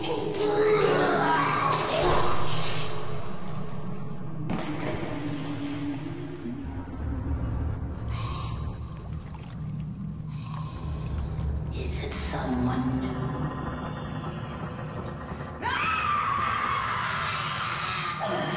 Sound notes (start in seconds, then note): 4.5 sploosh